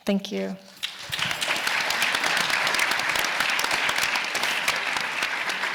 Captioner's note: audience applauding